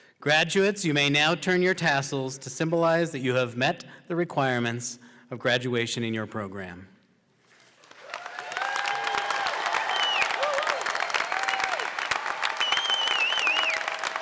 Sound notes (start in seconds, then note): 7.8 cheers and applause